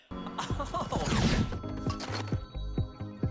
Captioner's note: Sonic whooshes